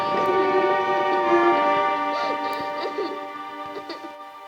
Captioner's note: girl sobs